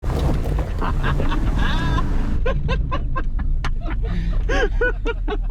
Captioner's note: tires crunching over gravel; laughing